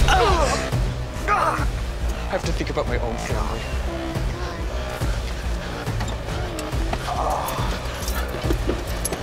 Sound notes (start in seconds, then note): 0.0 Ralph groans